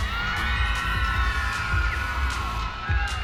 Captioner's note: cheering